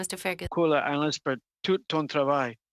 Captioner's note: speaking French